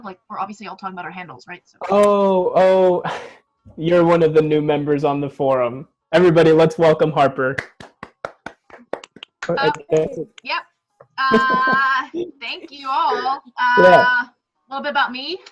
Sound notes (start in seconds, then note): 1.8 laughs; 7.5 scattered clapping and welcoming laughter